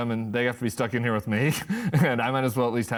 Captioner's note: laughs